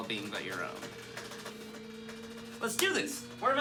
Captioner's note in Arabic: الآلة تدندن